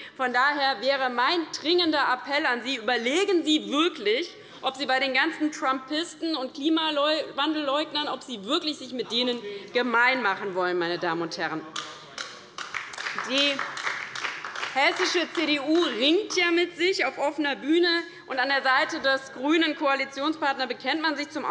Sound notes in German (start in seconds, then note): 12.5 Beifall bei der LINKEN